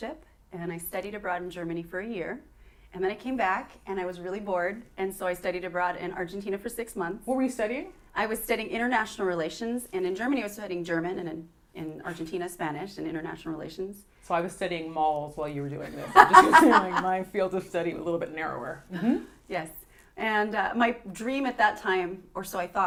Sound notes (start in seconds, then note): 15.8 laughter